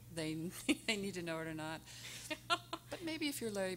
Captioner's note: laughing